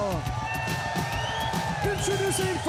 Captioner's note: crowd cheering